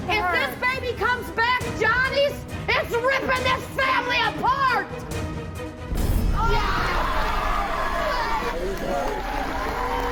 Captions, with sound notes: - If this baby comes back Johnny's, it's rippin' this family apart! (screaming)